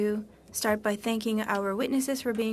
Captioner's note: speaking French